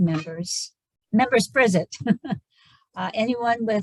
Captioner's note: chuckles